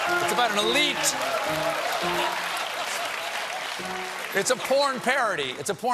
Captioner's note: laughter; piano riff